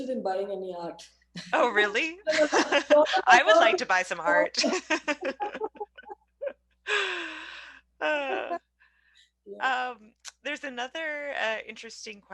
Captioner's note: laughs